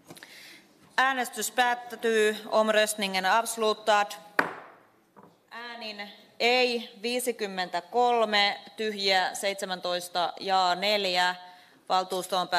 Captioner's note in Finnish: nuijan kopautus